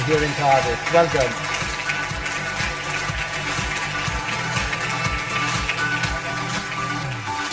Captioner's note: audience applause; upbeat music